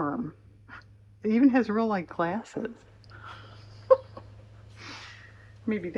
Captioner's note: laughs